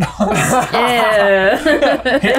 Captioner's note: laughs